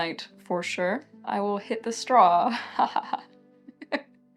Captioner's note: laughs